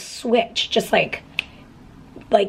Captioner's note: snaps fingers